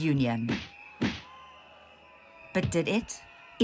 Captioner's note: sjambok whooshing